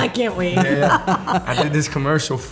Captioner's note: laughter